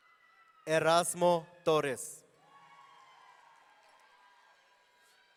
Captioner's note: audience cheering